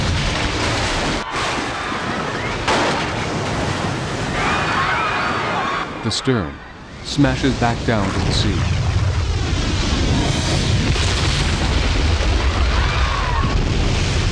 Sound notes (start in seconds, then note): 0.0 ship Breaks and Crashes; 8.9 Stern Crashes; 12.4 passengers Panicking